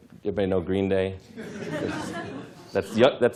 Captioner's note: laughter